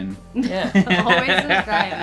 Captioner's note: laughing